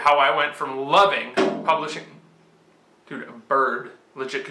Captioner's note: loud bang